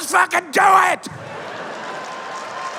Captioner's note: applause and cheers; laughter